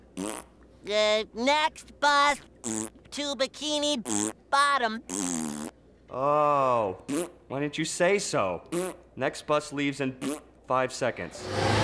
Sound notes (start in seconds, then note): 2.6 blowing raspberry; 5.0 blowing raspberry; 7.0 blowing raspberry; 8.7 blowing raspberry